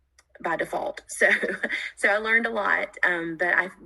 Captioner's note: laughs